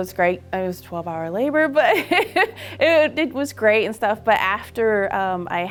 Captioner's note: laughing